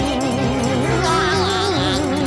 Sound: laughing

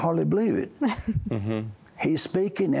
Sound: giggling

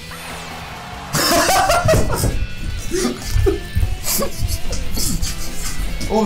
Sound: laughs and dances

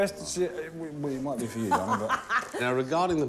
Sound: laughing

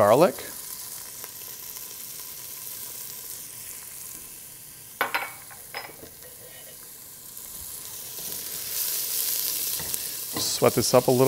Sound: pan sizzling

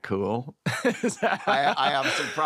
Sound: laughter

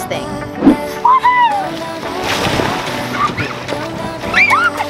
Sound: kids shrieking

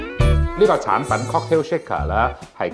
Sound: Cantonese

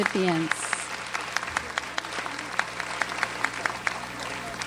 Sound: audience applauds

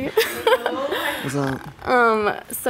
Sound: giggles

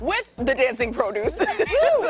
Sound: laughter

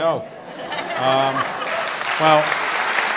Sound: audience applauds

